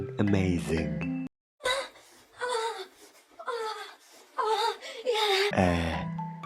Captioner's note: sex sounds